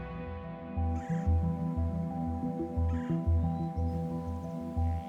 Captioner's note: birds chirping